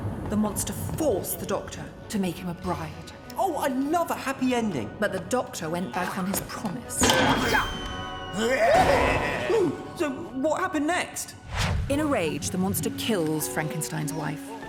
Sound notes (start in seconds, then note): 8.3 screaming